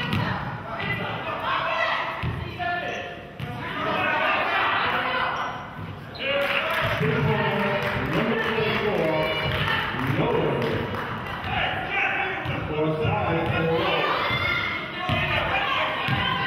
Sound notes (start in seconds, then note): 6.3 cheering and clapping; 9.6 murmurs